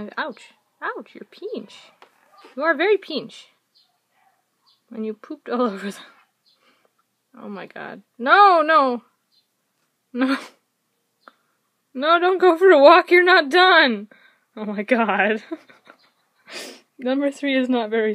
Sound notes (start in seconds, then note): 15.4 laughing